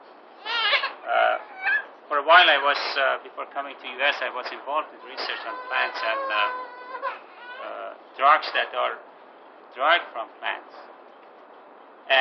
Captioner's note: bebek ağlaması